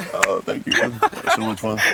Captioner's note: laughs